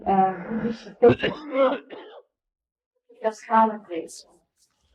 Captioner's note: coughing